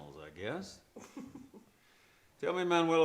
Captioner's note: Manuela chuckles